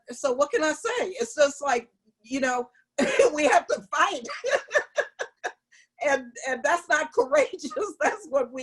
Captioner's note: laughter